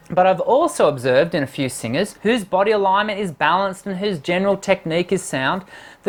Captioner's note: none